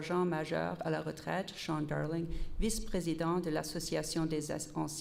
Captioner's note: repeated in French